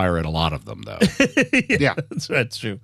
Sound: laughing

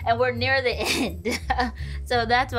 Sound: laughing

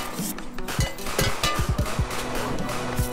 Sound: upbeat music; metal banging; dramatic music

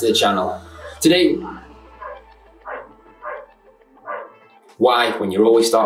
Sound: dog Barking

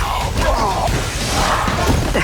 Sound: both grunt; crashing; yells; yelling

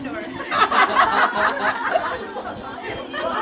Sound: loud laugh

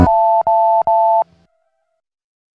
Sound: telephone dial tone beeping

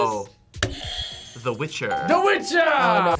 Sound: buzzer rings

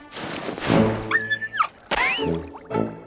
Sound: whimpering; clown horn noise

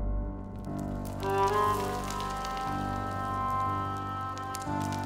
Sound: wind

